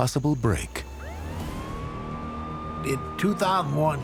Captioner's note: siren blares